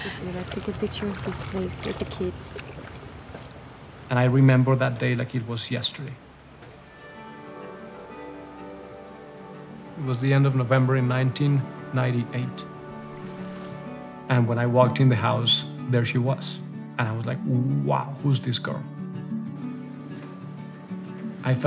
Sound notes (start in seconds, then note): 7.2 upbeat music; 12.6 water splashes; 12.6 upbeat music; 19.5 upbeat music